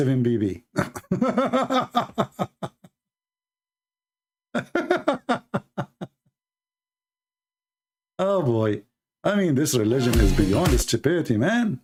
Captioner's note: Ketawa